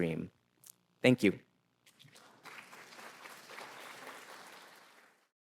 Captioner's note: audience clapping